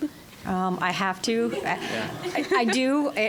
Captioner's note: all laughing